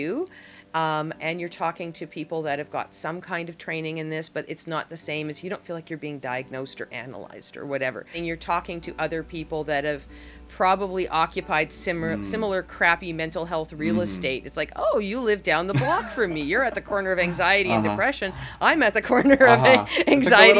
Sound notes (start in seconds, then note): 15.7 laughs